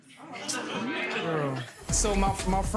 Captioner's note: audience gasps